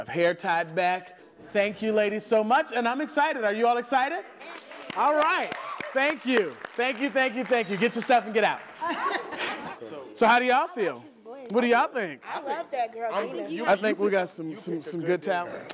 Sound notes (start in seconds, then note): 5.9 applause; 8.7 laughter